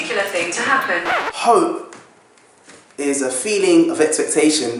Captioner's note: record Scratch